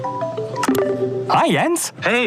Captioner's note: chat chimes